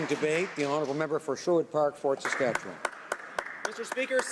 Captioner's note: applause